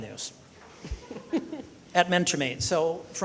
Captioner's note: people laughing